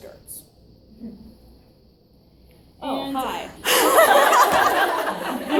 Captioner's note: audience laughs loudly